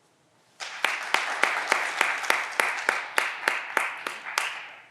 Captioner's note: audience applause